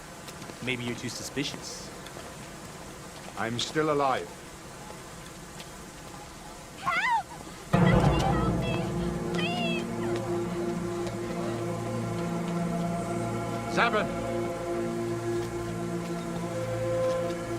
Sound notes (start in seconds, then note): 8.1 ominous orchestral music; 9.1 footsteps